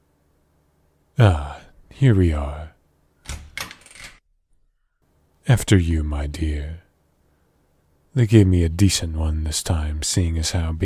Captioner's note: door